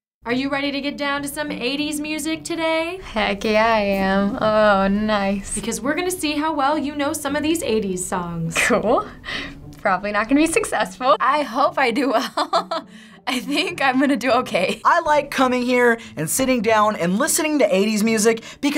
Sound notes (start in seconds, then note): 12.1 laughing